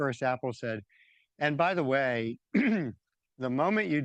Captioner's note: clears throat